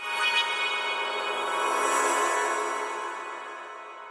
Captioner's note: ethereal chime